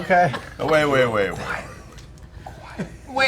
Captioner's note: whispers